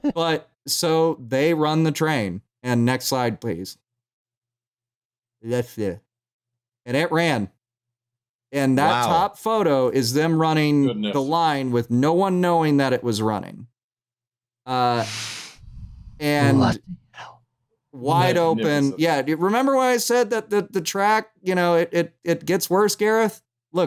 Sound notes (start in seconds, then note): 15.0 blows out through nose; 17.1 whispers